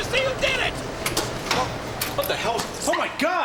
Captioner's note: door clicks